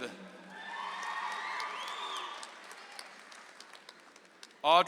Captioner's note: audience applauds